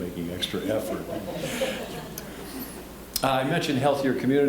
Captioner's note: scattered laughing